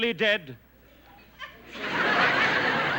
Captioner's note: laughter